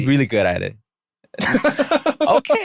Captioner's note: laughter